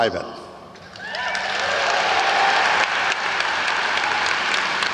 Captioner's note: audience cheers